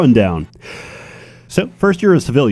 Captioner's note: inhales